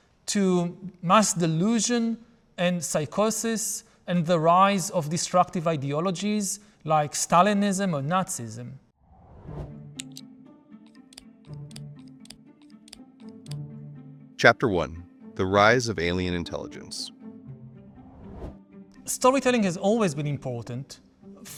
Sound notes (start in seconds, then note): 9.0 graphics whooshing; 18.1 graphics whooshing